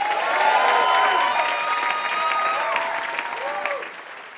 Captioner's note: applause